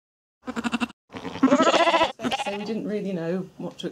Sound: sheep bleat

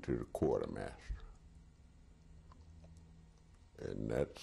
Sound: pauses for 3 seconds

